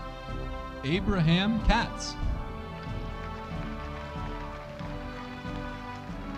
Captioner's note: audience applauding